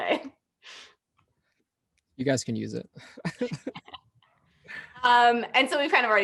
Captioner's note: laughter